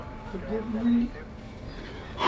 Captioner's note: breathing heavily